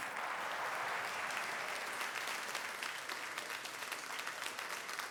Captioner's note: crowd applauds